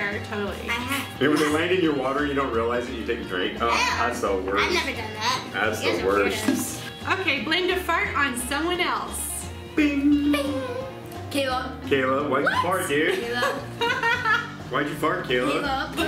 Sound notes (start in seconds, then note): 13.2 laughing